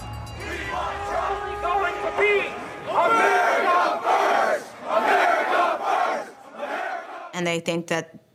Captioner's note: chanting